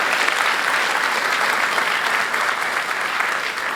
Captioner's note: applause